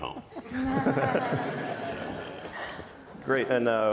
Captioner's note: audience laughs